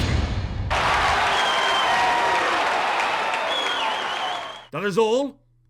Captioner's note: crowd cheering